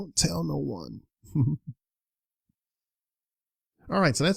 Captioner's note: chuckles